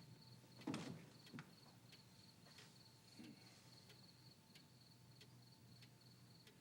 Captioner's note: crickets chirping; clock ticking